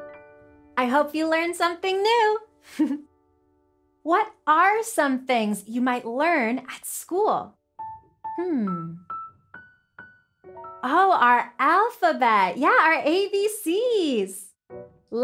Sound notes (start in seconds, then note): 3.3 giggles